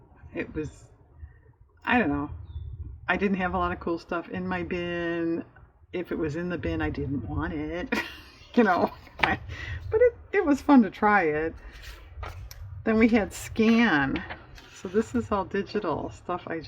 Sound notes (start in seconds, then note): 7.9 laughs